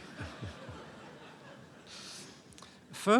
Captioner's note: laughter